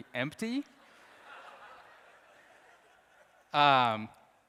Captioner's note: audience laughs